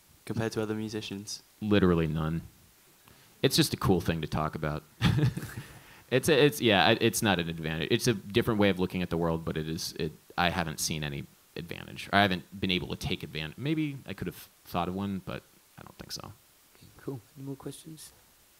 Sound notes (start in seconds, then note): 5.0 laughs